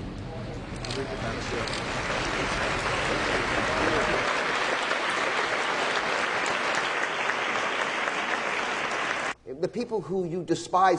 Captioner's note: clapping